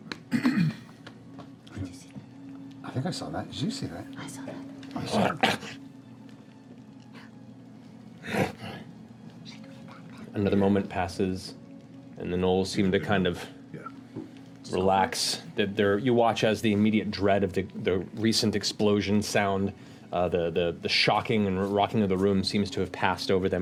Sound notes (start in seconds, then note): 8.2 snarl